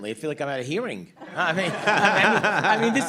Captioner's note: laughter